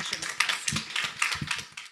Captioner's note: applause